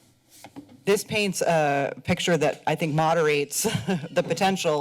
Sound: chuckles

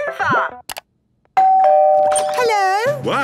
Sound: doorbell ringing

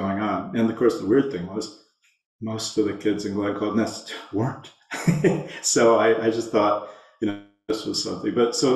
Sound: laughs

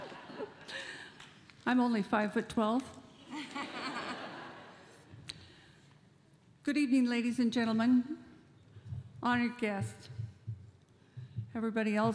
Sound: laughter

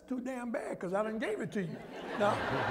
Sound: laughter

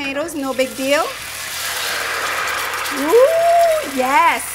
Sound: tomatoes sizzling

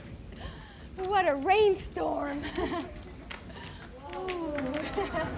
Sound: laughs

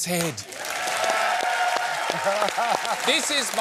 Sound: applause

